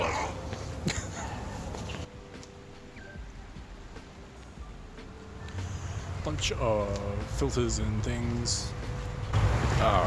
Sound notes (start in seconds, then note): 0.0 dogs growling